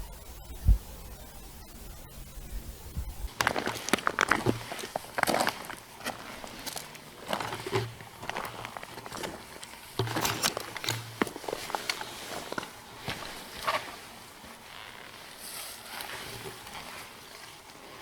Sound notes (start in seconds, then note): 3.8 footsteps crunching